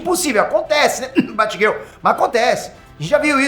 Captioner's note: cough